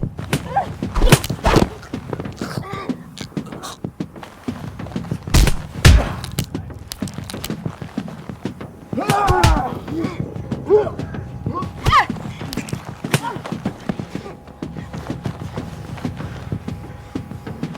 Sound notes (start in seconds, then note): 0.2 yell; 1.7 choking; 5.7 cracking; 8.7 yelling; 10.1 choking; 11.5 scream